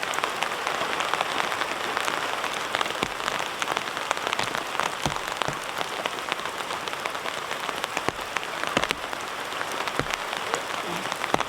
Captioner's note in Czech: Nepřetržité zvuky deště